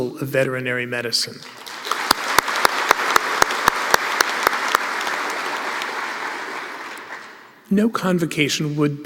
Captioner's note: applause